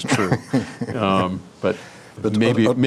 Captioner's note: laughs